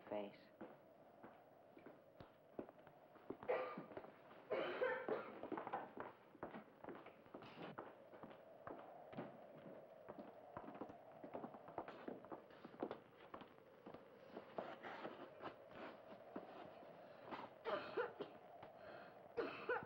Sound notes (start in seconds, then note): 3.5 Helen coughing